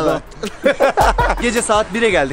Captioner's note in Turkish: hahaha!